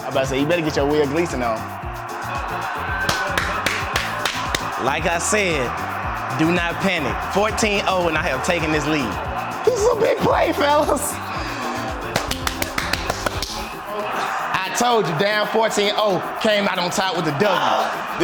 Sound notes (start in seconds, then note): 2.7 clapping; 11.6 clapping